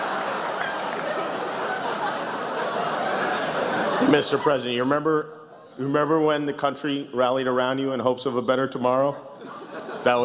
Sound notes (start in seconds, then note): 0.0 laughter